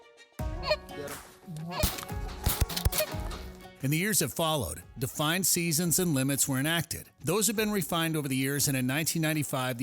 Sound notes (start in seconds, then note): 1.8 gun firing